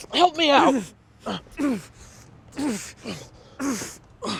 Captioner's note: both grunting